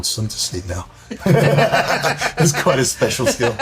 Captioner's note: laughter